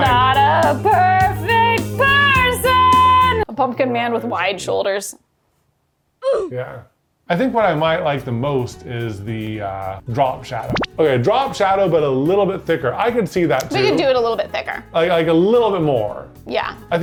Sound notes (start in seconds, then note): 6.2 child grunting